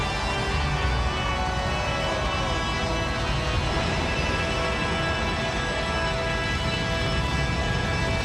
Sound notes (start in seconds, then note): 0.0 ominous music continues; 1.0 audience cheers